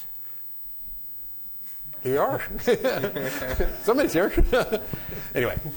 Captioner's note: laughter